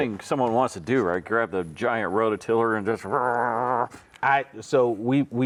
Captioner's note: makes whirring noise